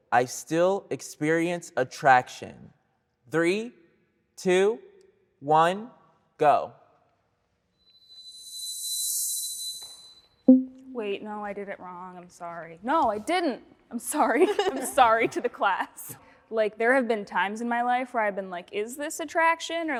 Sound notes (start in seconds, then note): 10.5 banner dinging